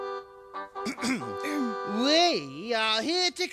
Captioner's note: clears throat